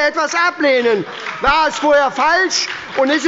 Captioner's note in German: Beifall bei der SPD